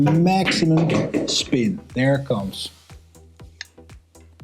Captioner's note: pool balls clacking